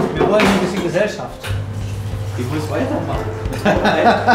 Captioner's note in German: Lachen